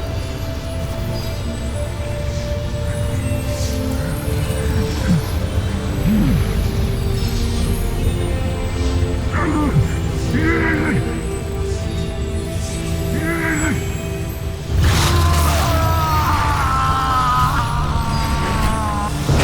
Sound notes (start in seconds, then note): 0.1 powerful whoosh-crackle; 3.9 grunts; 3.9 powerful whoosh-crackle